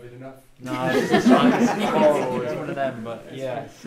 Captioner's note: all laugh